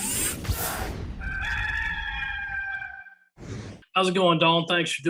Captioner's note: machines zooming; cock crowing